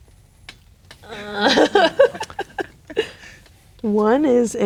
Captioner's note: laughing